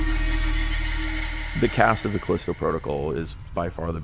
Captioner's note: monster shrieks